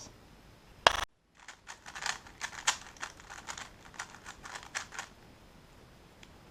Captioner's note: cube noises